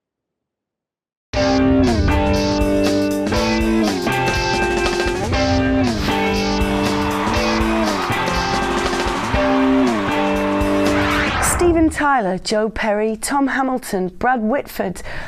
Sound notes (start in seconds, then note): 1.7 upbeat rock music; 5.8 crowd cheering